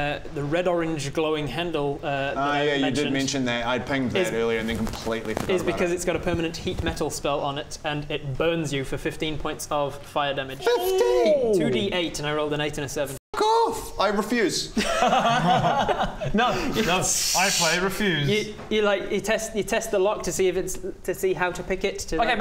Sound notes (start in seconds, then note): 14.7 unsympathetic laughter; 17.0 tssssch